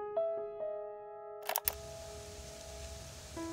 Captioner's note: click